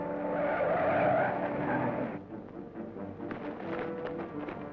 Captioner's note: tires screeching; suspenseful music